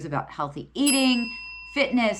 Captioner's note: notification bell dings